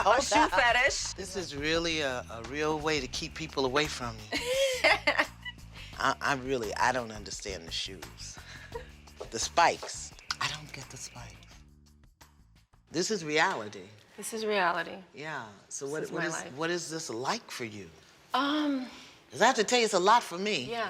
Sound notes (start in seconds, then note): 4.2 laughs